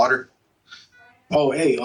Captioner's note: heart monitor